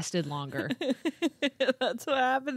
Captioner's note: chuckling